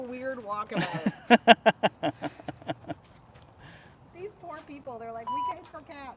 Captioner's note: laughter